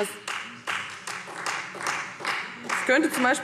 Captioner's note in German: Beifall Freie Demokraten